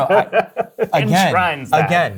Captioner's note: guy laughing